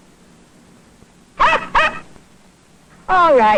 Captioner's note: dog barks